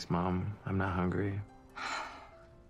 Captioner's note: sighs